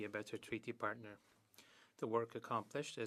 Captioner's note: speaking French